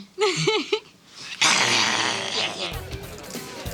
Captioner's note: laughter; growling